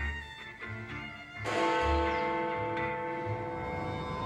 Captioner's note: clock rings